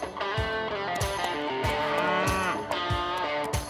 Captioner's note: cow moos